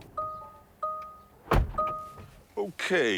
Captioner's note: beeping